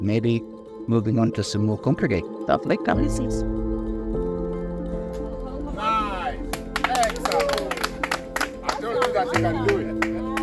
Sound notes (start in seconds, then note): 8.7 clapping